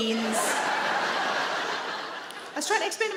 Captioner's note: audience laughing